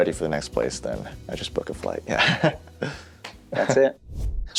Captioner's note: laughing